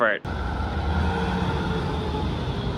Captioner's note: sound of Tram passing